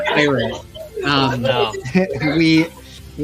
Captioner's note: laughing